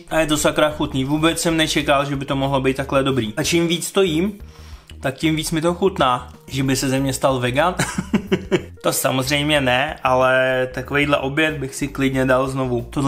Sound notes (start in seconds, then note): 7.8 giggle